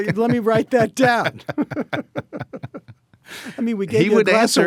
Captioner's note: both laughing